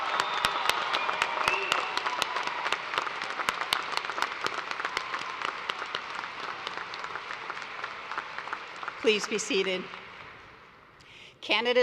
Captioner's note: cheers and applause